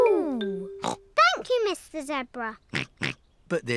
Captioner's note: snorts